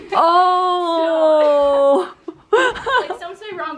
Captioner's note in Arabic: يضحك